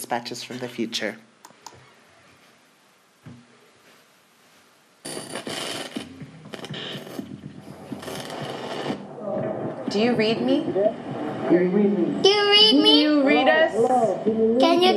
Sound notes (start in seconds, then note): 5.7 static crackles